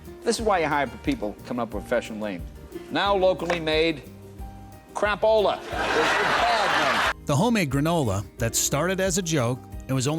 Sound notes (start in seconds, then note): 5.7 audience laughing